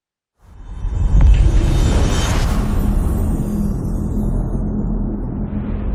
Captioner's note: dramatic sound